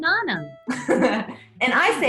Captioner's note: laughing